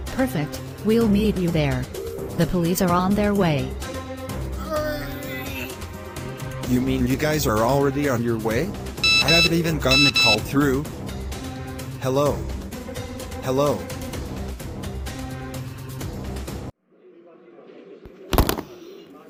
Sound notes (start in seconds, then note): 4.1 zombie groan; 9.0 call disconnect; 18.3 thunk!